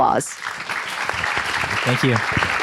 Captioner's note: applause